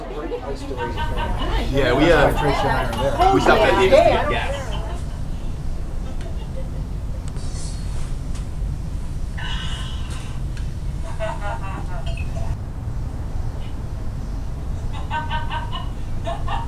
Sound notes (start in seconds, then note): 1.9 party chatter; 6.8 laughing, pouring & drinking